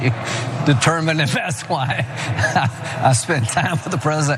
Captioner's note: laugh